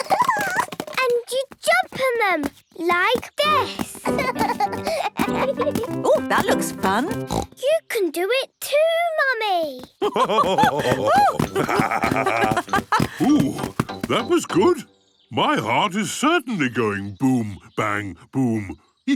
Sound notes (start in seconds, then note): 4.0 both laugh; 10.0 both laugh